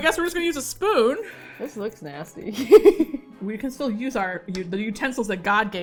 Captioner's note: laughs